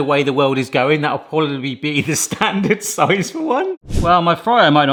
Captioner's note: laughs